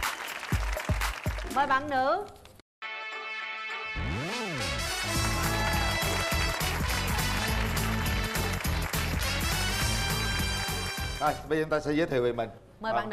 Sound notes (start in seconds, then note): 3.6 theme music; 7.3 cheering